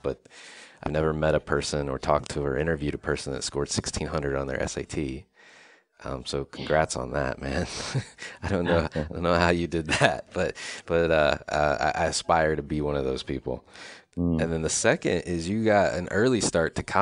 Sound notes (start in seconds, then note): 7.8 chuckles